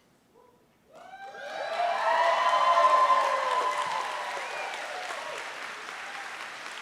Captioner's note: audience cheering and applauding